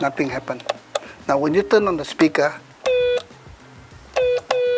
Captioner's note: beeps